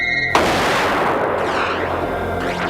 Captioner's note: gunshot